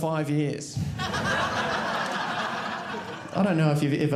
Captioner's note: audience laughing